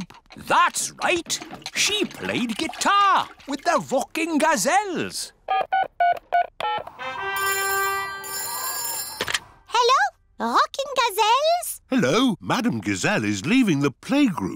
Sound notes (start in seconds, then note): 4.8 dialing; 7.4 phone rings